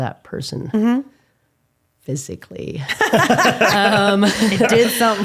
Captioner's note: laughing